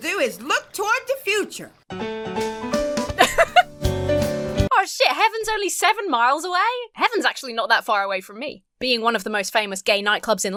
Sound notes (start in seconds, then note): 1.9 lively jazz music; 3.1 laughs